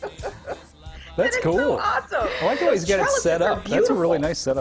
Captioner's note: laughter